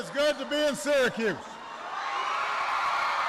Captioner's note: applause